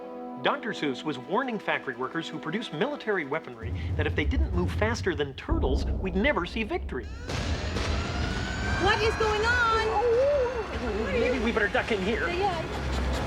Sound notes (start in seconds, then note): 7.1 siren blaring; 9.4 howls